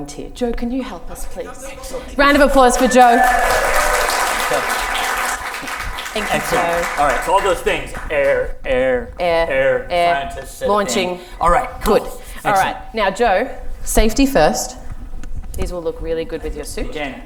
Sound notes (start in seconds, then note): 3.8 audience applause can be heard